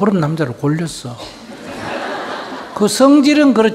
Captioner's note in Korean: 청중 웃음